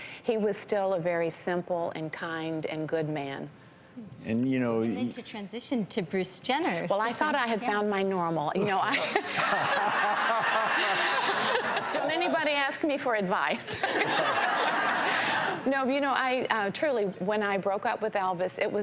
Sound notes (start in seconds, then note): 8.8 all laugh; 13.6 audience laughs